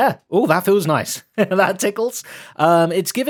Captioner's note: laughs